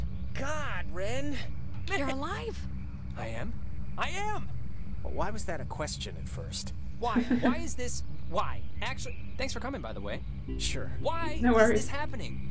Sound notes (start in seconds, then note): 7.1 laughs